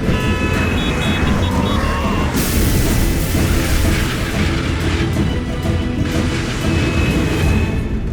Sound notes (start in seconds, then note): 0.0 horns honking; 2.4 glass shattering; 2.4 metal clanking